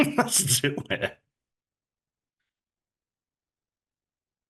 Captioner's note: laughing